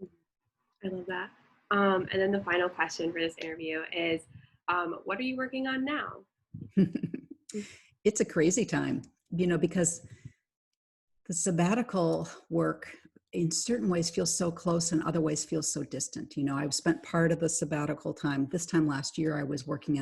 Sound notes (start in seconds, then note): 6.6 chuckles